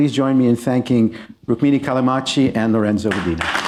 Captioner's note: applause